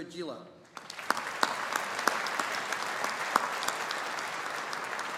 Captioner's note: audience applauding